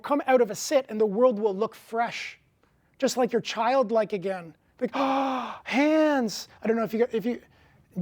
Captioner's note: gasp